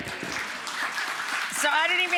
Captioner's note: audience applauding